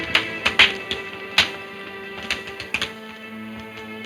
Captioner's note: fire crackling